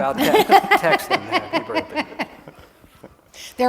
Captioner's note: laughter